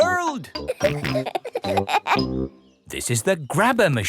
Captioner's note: peppa and george laughing